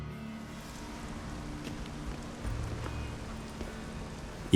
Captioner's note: raindrops pattering